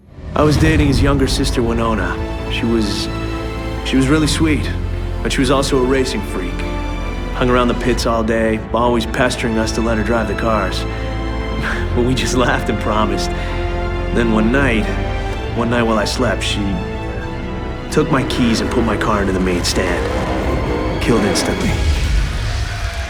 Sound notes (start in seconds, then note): 11.6 sigh